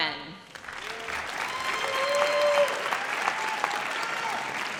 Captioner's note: audience cheers